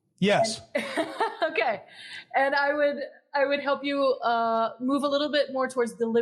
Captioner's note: laugh